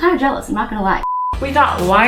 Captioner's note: beep